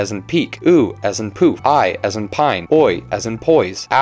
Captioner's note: poof